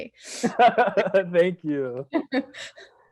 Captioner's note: laughing